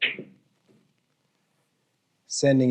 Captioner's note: balls clacks